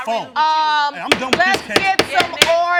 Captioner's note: bangs gavel